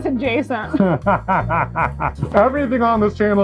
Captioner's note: laughing